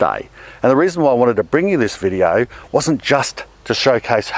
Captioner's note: none